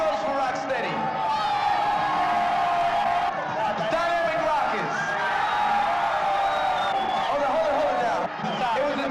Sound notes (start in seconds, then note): 1.2 crowd cheering; 5.2 heightened cheering